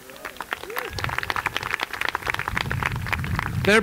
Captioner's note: applause